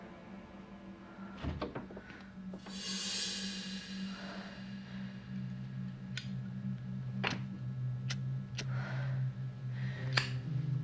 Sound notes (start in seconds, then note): 7.2 lighter flicking